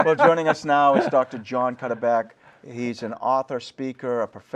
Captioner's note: laughter